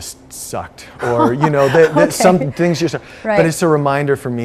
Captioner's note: hostess laughs